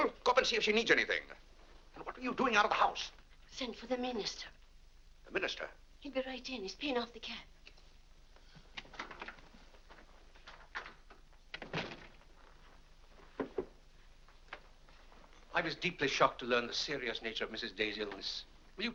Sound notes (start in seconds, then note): 8.7 door opens; 11.5 door closes